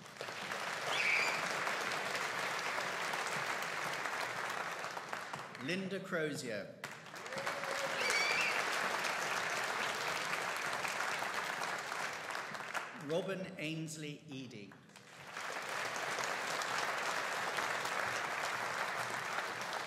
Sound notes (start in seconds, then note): 0.0 audience applauding; 6.8 audience cheering and applauding; 14.9 audience applauding